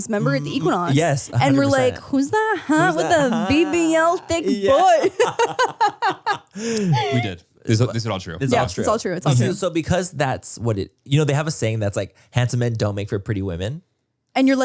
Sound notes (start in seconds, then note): 5.3 both laugh